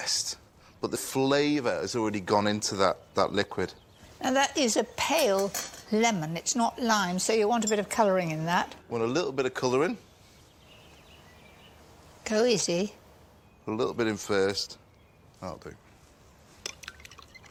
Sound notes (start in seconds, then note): none